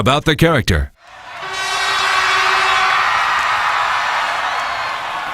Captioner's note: crowd cheering